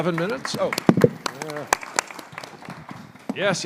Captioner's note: applause